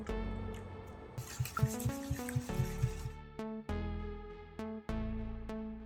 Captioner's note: whisking wet ingredients; background music playing